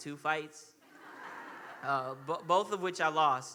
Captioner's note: audience laughing